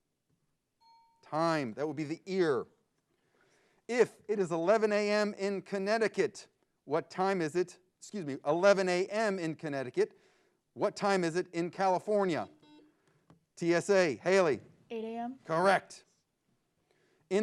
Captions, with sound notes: (bell dings) Time. That would be the ear. If it is 11:00 AM in Connecticut, what time is it, excuse me, 11:00 AM in Connecticut, what time is it in California? (buzzer beeps) - TSA, Hailey. - 8:00 AM? - Correct.